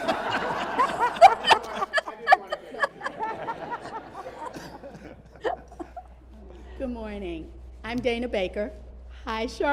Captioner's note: laughter